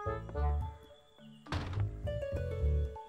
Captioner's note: Door closes